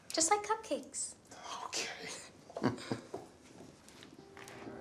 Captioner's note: laughs; somber music